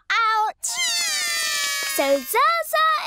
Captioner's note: both cry